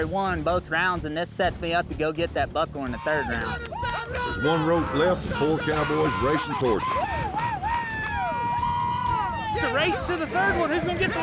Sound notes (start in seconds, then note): 6.3 shouting